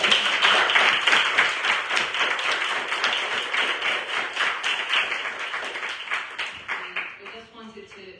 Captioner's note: applause